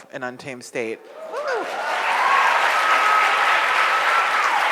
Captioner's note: audience cheers